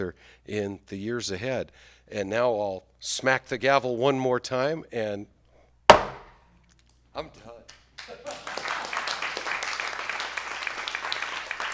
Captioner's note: applause